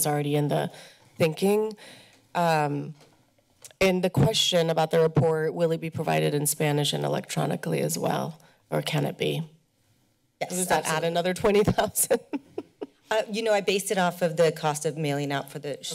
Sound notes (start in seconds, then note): 11.6 laughs